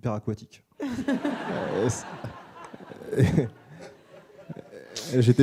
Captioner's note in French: rires